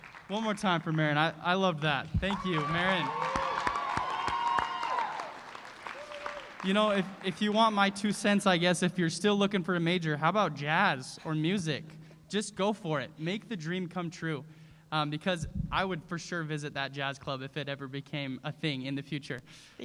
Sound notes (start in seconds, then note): 3.7 cheering